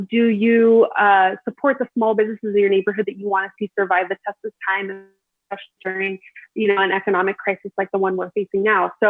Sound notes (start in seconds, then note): 5.5 audio distorts